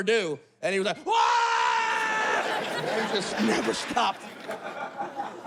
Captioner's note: screams